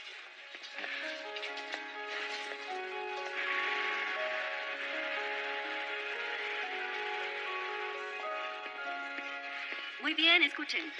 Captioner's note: applause